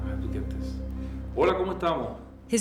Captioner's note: speaking Spanish